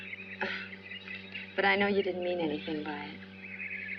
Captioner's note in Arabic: ضحكة مكتومة